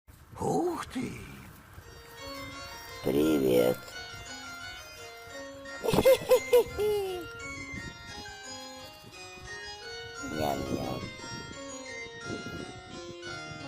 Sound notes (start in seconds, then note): 3.5 fairy-tale music; 5.8 joyful laughter; 5.9 fairy-tale music